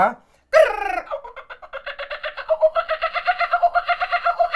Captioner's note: imitates birds calling